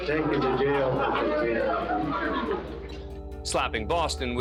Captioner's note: indistinct chatter